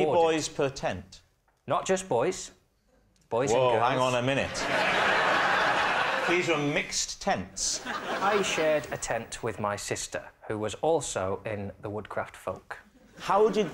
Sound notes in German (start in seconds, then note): 4.4 gelächter